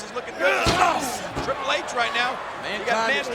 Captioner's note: Austin grunts